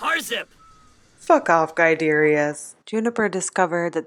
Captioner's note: tantrum noises